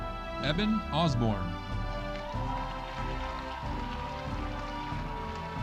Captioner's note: audience applauding